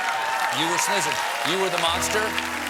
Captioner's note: cheers and applause